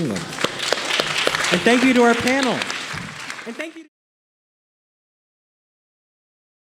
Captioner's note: audience applauding